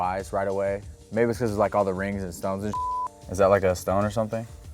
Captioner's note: beep